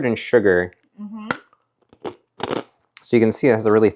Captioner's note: peanut crunching